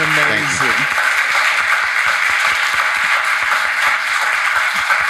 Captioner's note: audience applauding